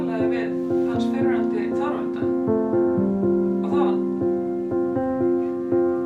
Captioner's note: calm music; speaking in Icelandic